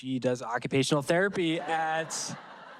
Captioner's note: audience laughing